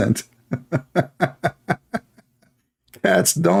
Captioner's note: Ketawa